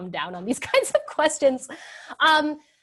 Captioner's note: laughs